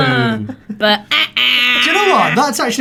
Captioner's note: imitates error sound